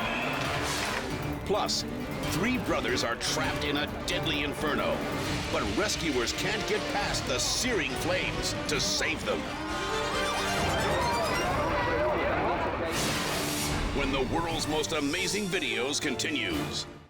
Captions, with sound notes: Plus, three brothers are trapped in a deadly inferno, but rescuers can't get past the searing flames to save them. (sirens wailing) (boys crying) When the "World's Most Amazing Videos" continues.